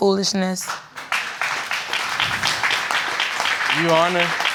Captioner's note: audience applauding